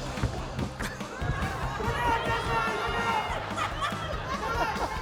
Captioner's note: laughter; laughter, screaming